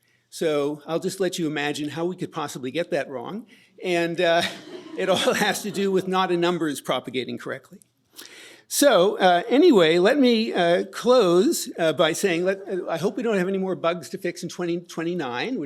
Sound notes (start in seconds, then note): 4.3 laughter